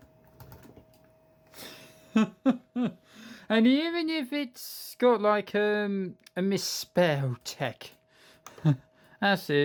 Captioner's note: chuckles